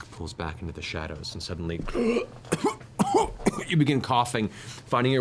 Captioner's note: gasp, cough